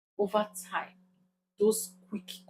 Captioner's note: paause